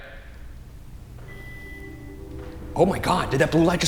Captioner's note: Boo-Subi beeps